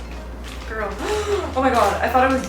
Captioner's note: gasp